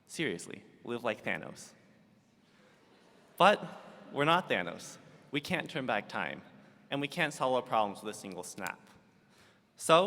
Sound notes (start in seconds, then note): 2.2 audience laughs